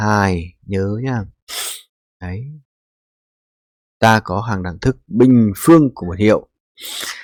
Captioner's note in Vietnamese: khịt mũi